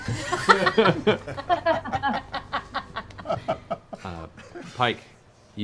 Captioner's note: laughter